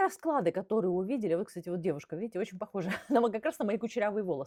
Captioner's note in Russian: смех